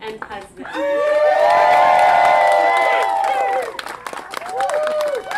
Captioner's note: cheering